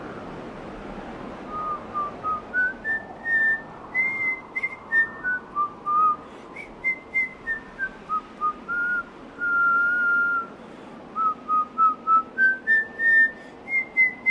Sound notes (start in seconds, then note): 1.4 whistling; 1.4 wind blowing violently